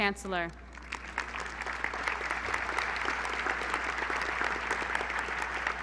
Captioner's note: applause